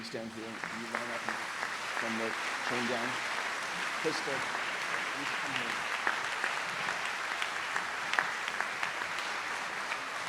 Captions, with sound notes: Crystal, can you stand here? (speaking off mic) Come down. Crystal, you need to come here. (audience applauds)